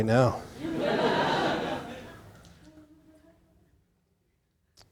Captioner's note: audience laughing